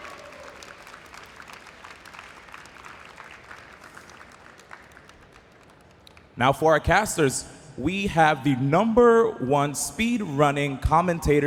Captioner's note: applause